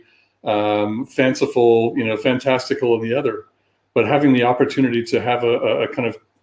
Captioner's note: erm